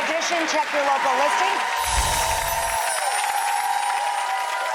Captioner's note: audience cheering